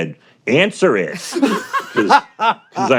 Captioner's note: laughter